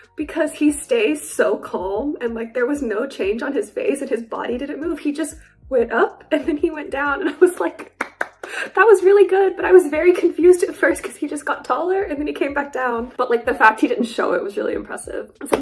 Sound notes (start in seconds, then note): 7.6 claps